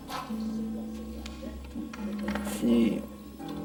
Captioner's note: people chattering